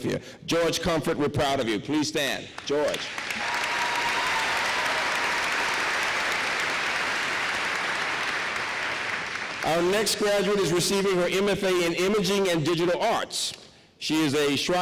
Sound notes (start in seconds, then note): 2.5 applause